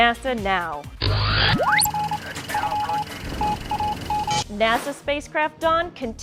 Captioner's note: sound Effects